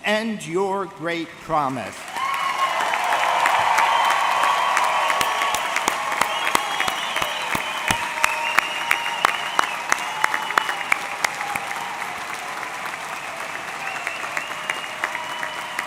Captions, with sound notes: and your great promise. (audience cheering) (audience clapping)